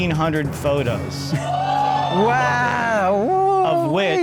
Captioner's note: audience cheers